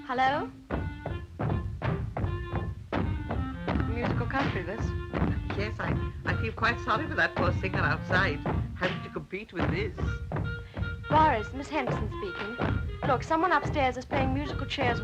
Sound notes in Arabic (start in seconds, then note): 0.7 ضربات الأقدام من الأعلى; 2.2 عزف الكلارينيت